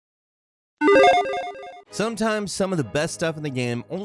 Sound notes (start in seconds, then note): 0.8 logo beeps